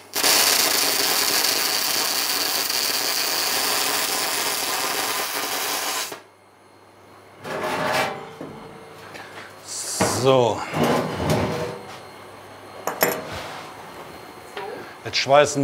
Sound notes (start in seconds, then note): 12.3 distant machine noise